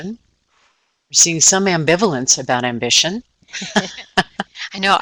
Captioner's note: laughing